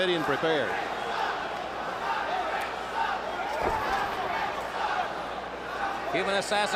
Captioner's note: crowd cheering